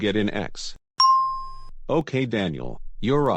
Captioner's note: ding!